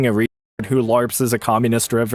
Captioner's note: audio cuts out